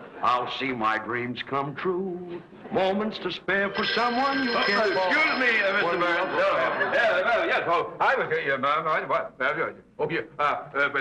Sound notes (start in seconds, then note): 3.5 phone rings; 6.7 Theodore stammering